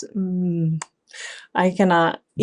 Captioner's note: hands clapping